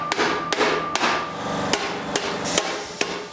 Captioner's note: machine noises